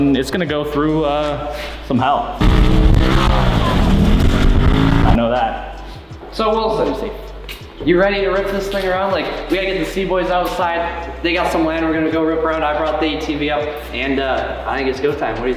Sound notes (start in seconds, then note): 2.4 engine purring